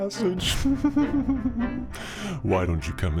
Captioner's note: narrator laughing